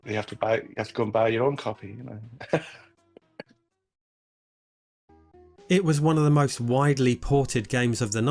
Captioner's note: laughs